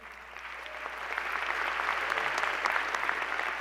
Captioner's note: applause